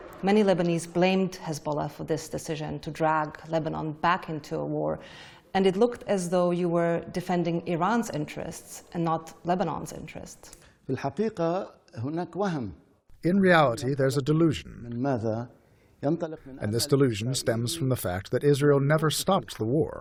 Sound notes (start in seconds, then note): 13.8 through translator